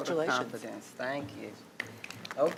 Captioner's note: clapping